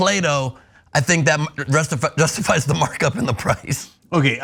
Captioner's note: laugh